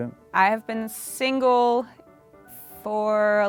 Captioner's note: none